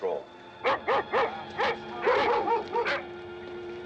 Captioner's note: barking